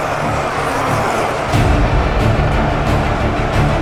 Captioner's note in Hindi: चीखने की आवाज़